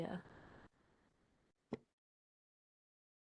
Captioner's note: pause